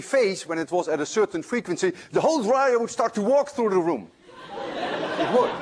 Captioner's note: laughter